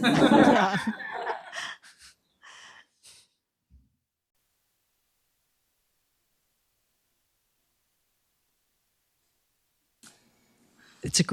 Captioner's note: laughter